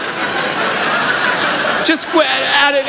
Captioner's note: laughter